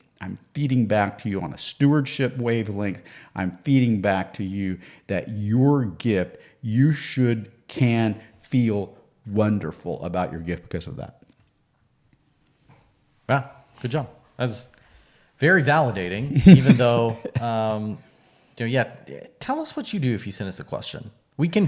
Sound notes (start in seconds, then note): 16.1 laughing